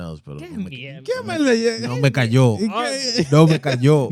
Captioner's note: speaking In Foreign Language